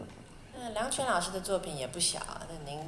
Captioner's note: Mandarin